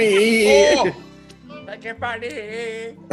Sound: laugh

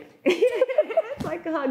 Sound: both laughing; chuckles

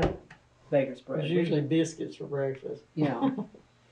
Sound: laughter

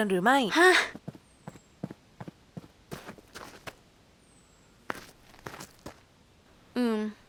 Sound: sound of walking

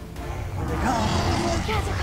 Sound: dinosaurs roaring

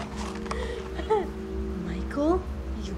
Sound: laughter

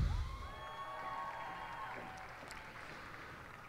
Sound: cheers and applause

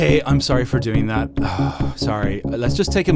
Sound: sigh

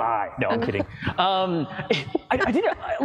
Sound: laughs

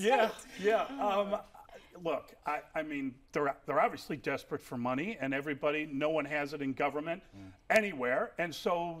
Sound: laughter

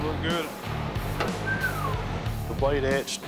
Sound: whistles

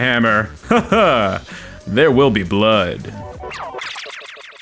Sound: laughs

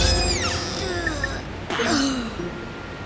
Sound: gasping

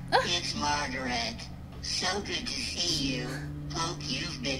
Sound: Sabrina gasps

